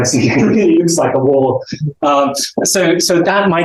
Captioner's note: chuckles